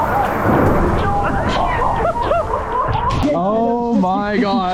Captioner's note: thunder rumbling